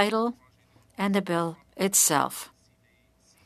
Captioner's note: speaking french